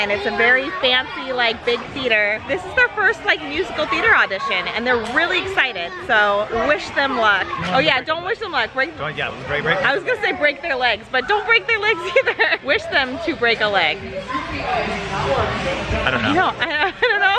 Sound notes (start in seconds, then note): 11.8 laughs